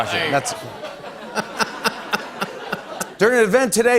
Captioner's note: ewwing and ohhing; laughter